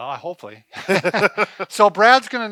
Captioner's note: both laugh